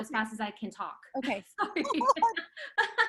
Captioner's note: laughing; both laugh